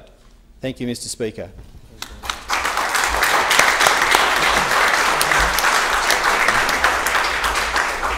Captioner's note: applause